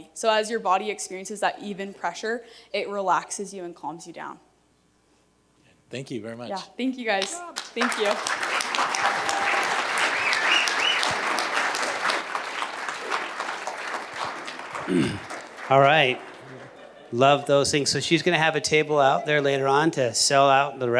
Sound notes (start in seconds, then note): 9.0 cheers and applause